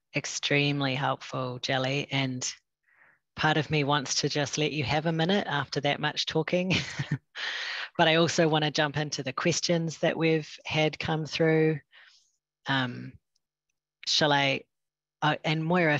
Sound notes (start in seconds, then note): 6.7 laughter